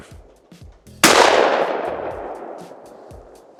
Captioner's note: gun shooting